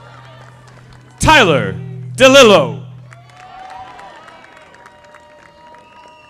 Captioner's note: audience applauding; audience applauding